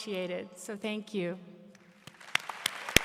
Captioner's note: applause